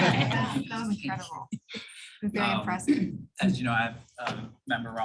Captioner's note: laughter